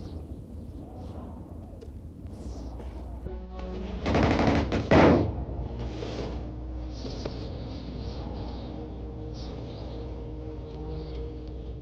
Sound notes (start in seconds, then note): 0.0 wind howling; 3.5 dramatic music; 4.3 gun firing; 6.0 dramatic music